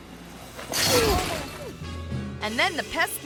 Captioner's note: fence rattles